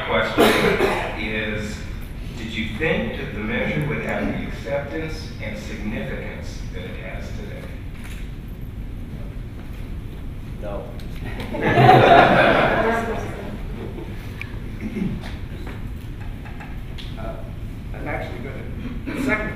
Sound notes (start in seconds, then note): 11.3 laughter